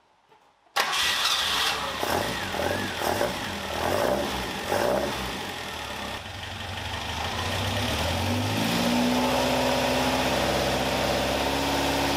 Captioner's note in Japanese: エンジン音